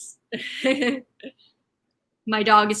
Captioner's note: chuckling